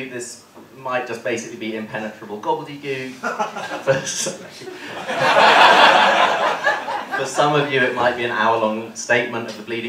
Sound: laughter

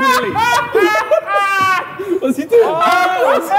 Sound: all laughing

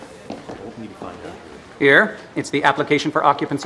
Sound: mixed chatter

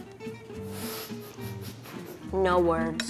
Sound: laughter

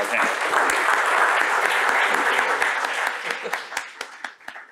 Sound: applause

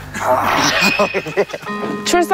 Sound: he still stands proud while whispering

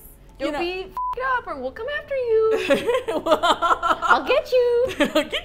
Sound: squeaky voice; laughs; both laugh; squeaky voice

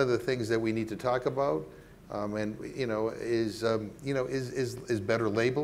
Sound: stammering

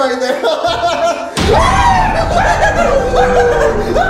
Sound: screams

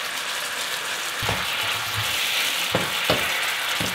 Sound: pan sizzles

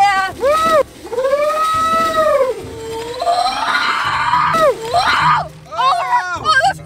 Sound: yells

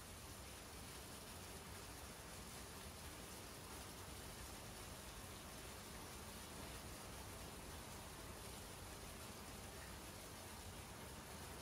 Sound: heavy Rain Sounds

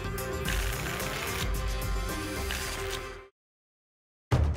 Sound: tickets shuffling

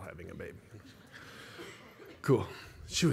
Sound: laughter

